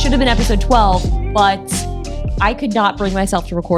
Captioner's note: none